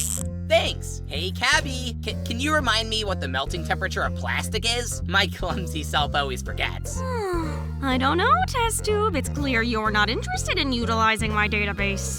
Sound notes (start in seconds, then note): 7.0 cabby sighs